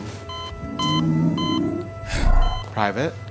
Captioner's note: monitor beeping